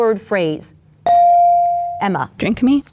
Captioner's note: bell dings